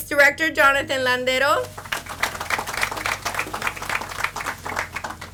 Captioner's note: audience applauds